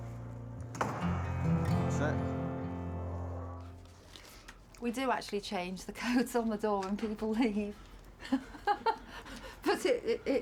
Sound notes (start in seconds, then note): 8.2 chuckles